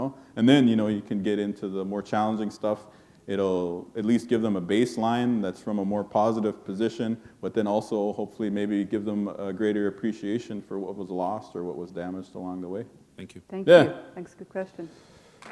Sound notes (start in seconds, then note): none